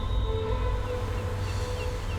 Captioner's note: gulls calling